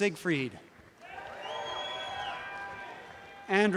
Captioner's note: audience cheering